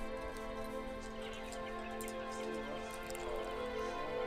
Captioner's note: indistinct chatter